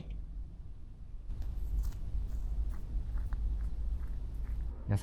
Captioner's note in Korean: 발자국소리